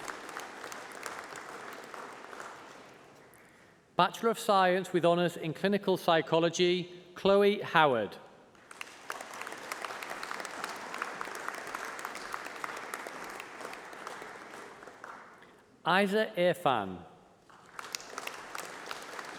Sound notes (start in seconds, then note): 8.5 applause